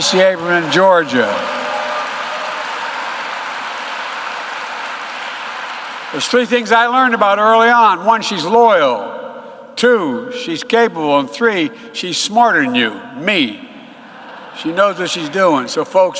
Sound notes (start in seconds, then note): 6.6 applause